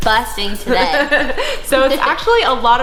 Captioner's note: laughter